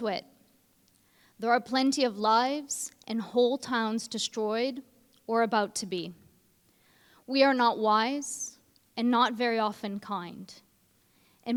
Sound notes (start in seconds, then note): none